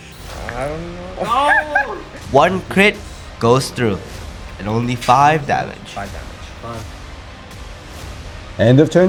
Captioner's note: scream